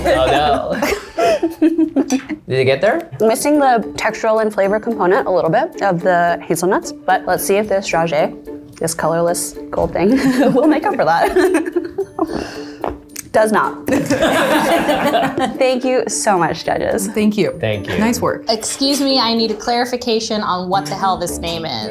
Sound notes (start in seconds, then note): 10.1 laughs; 12.4 crunching; 13.9 laughter